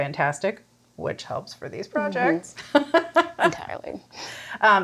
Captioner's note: laughs